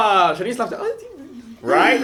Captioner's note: giggles